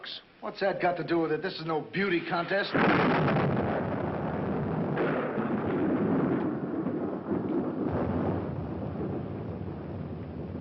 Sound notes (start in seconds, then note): 2.7 thunder